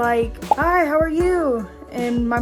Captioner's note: bubble pops